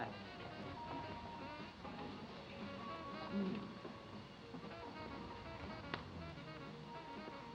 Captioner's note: upbeat jazzy music; engines rumbling